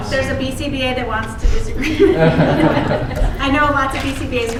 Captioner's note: laughter